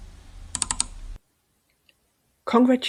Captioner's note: clicking sounds